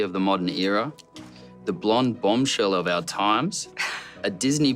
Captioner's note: Robbie laughs